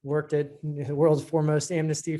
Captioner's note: laughs